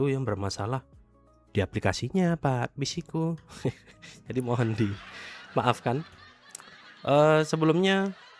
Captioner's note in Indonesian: tertawa